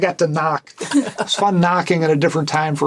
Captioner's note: laughter